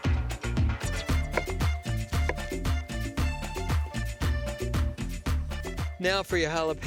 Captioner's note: chopping